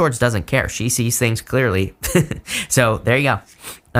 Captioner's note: chuckles